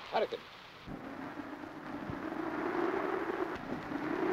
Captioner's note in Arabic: هبوب الريح